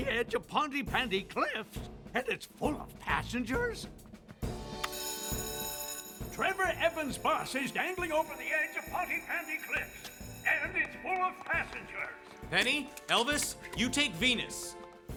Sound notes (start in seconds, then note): 4.8 alarm Ringing